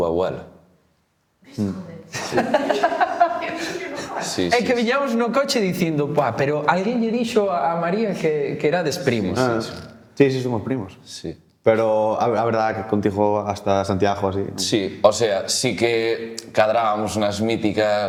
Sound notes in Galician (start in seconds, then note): 2.1 risas